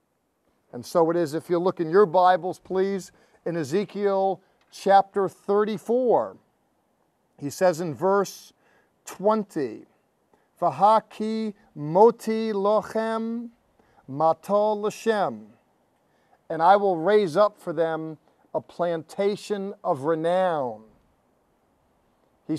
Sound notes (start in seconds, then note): 12.1 speaking in Hebrew